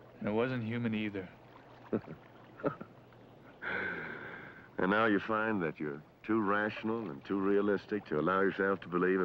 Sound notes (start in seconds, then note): 1.8 laughing